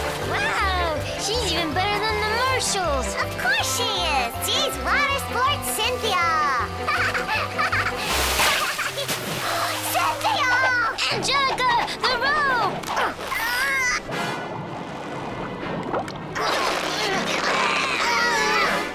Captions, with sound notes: Wow, she's even better than the marshals. Of course she is. She's Water Sports Cynthia. [laughing] Cynthia! Angelica, the rope! [groaning]